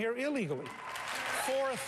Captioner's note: applause